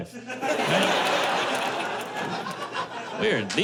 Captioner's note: laughter